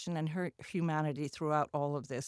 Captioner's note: none